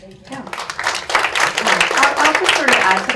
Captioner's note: audience applauds